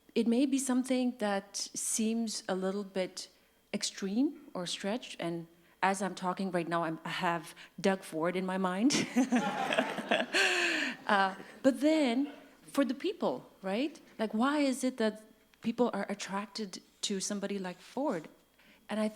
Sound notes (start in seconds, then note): 9.0 laughs